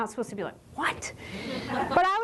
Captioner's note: chuckles